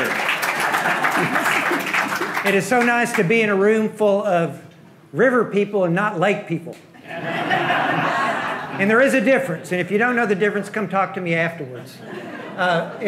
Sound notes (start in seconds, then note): 7.0 audience laughing